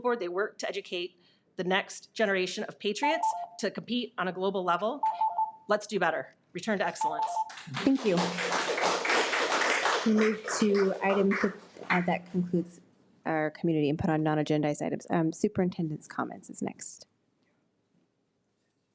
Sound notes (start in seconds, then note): 7.4 audience applauds